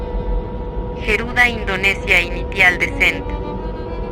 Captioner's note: speaking Spanish